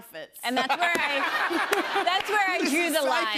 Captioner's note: laughter